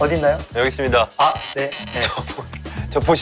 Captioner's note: creak creak